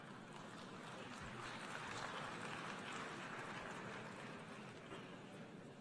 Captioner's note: applause